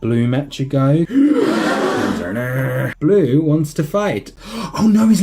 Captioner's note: gasps